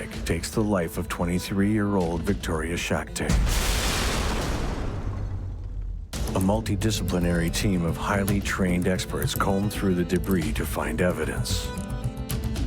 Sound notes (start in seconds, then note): 3.3 thunderous explosion; 3.3 glass crashing